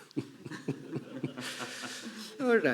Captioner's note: chuckling